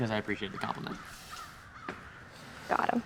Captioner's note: crows cawing